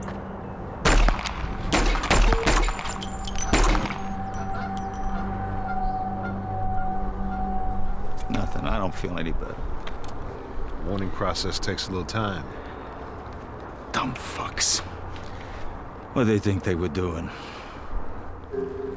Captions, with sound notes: (gunshots) Nothing, I don't feel any better. The mourning process takes a little time. Dumb fucks. What’d they think they were doing?